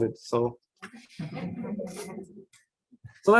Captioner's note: laughter